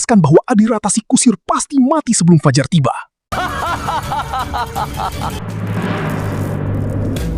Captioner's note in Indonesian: tertawa